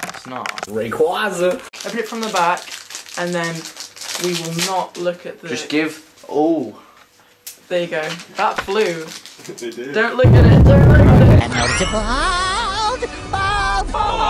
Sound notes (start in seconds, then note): 1.1 male Voice